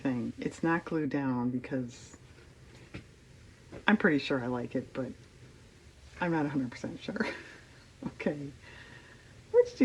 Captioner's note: laughs